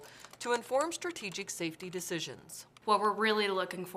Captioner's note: sounds of computer keyboard typing